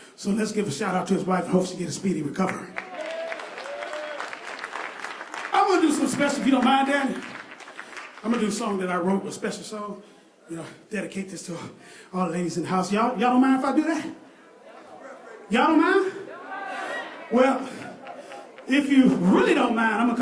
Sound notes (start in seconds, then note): 2.4 applause